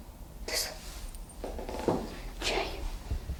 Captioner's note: whispers